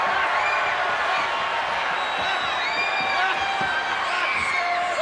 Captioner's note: audience cheering